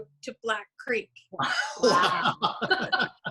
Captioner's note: both laughing